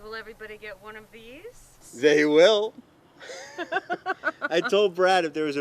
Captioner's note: laughter